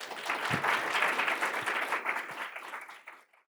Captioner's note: audience applauds